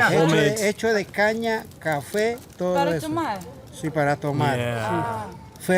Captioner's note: all speaking in foreign language